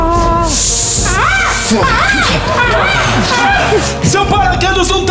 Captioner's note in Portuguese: grasnados